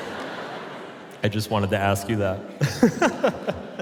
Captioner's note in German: Publikum lacht; lacht